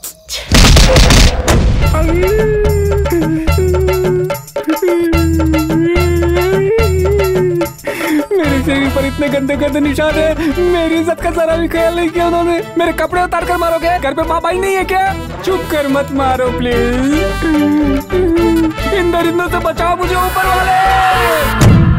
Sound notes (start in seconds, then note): 0.5 thumping; 4.6 crying; 21.8 thumping